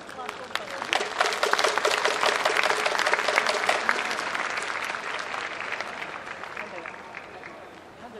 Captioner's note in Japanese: 拍手